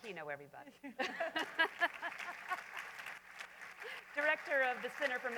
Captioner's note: laughter; applause